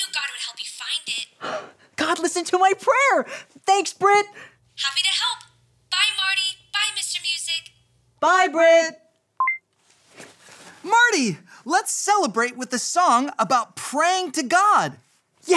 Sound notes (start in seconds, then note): 9.6 phone clicks